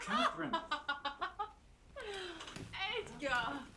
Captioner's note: laughing